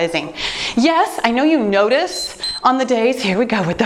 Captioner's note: timer beeps